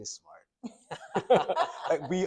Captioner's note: doctors laughing